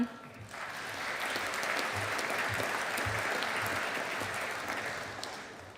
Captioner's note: audience applauding